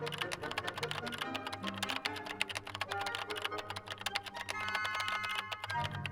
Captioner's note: keyboard clicking; dramatic music continues